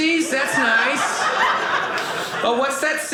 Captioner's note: audience laughing